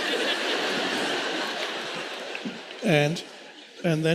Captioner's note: audience laughing